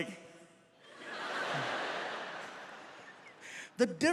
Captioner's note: audience laughs